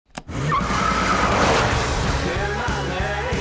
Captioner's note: wheels screeching